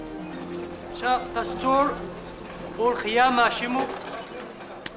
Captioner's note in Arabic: الصوت المنطوق البدوي